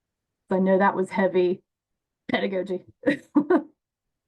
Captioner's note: laughs